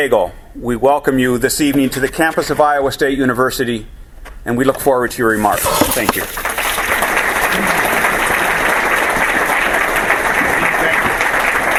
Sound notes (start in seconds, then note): 5.8 applause